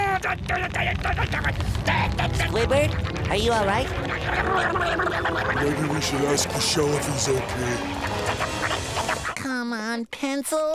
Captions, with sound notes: [yelling] Squidward, are you all right? [growling] Maybe we should ask the shell if he's okay. [growling]